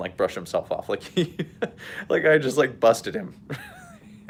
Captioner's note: laughs